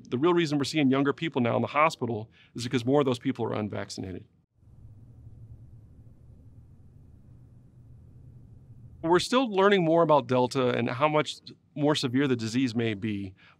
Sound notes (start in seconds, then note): 4.4 silence